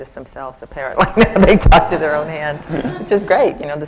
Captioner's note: laughs